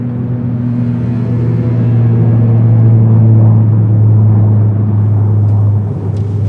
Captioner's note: airplane hum